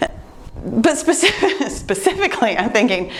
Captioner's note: laughs